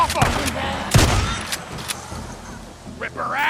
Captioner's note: guns blasting